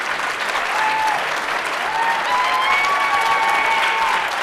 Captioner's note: audience cheers